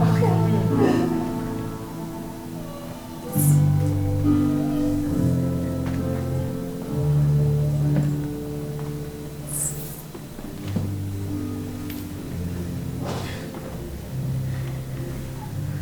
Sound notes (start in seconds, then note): 1.8 giggle; 3.1 piano music fades out